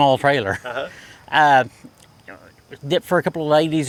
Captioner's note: chuckles